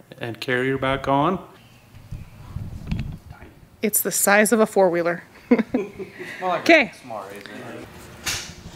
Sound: laughing

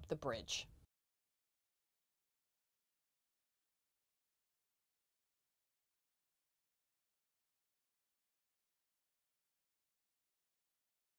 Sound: no Sound Present

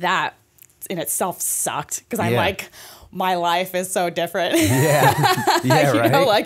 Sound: laughter

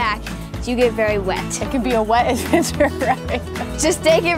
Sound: laughs

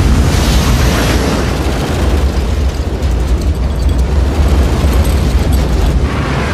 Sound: turbulence continues

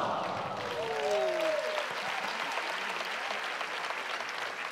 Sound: cheering

